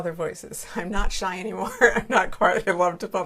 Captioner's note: laughs